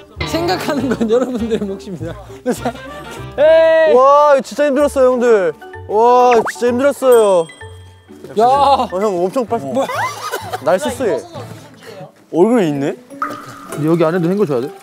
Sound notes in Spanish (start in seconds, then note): 9.7 Riendo de verlo tan limpio